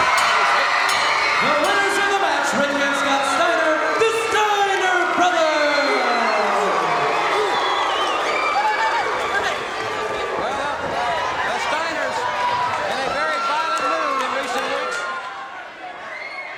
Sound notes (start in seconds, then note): 0.0 bell rings; 0.1 audience cheers; 6.3 audience barks and cheers